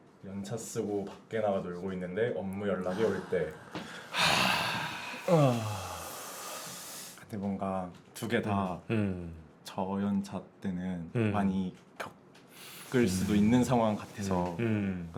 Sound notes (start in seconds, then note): 2.9 sigh; 5.2 deep sigh